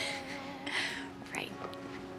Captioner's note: Mindy chuckles